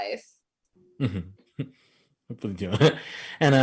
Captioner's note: chuckles